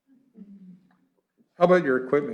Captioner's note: chuckling